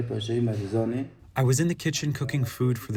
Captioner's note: through translator